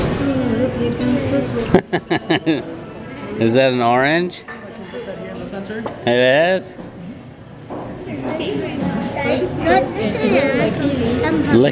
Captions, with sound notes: (laughing) Is that an orange? It is? - No this is...